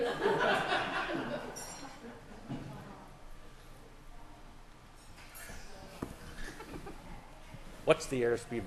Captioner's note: laughter